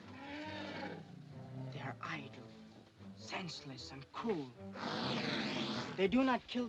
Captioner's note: elephant snorts